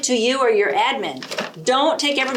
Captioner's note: bag rustles